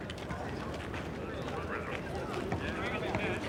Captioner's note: none